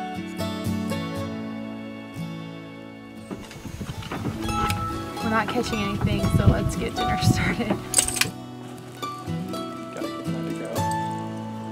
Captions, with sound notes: “We’re not catching anything so let’s get dinner started.” [lighter clicks] [fire cracking]